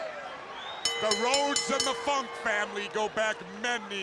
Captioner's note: bell dinging